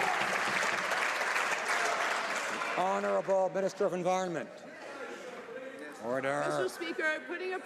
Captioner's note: some Applause